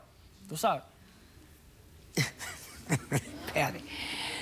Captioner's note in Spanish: riendo